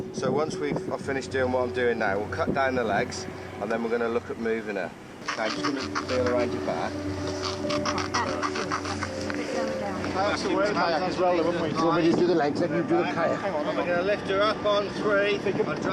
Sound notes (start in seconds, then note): 5.2 rubber squeaking; 8.3 group chattering; 8.3 rubber squeaking; 10.5 group chattering